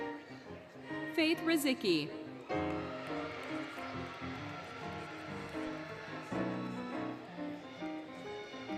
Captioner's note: applause, Cheering, Music; applause, Cheering, Music; applause, Music, Indistinct Shouting